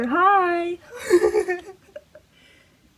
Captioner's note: laughing